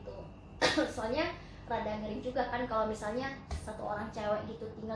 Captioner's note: coughing